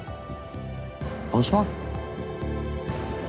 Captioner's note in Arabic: تكلم الفرنسية